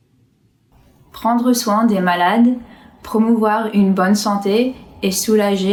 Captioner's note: speaks in foreign language